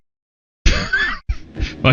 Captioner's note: laughs